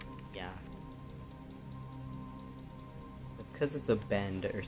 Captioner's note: rapid clicking